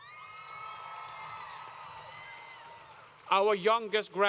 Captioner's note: crowd Cheering